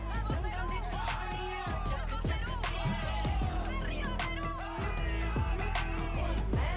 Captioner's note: speaking Spanish